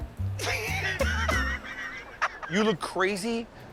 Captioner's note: laughter